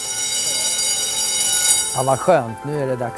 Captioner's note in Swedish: Klocka ringer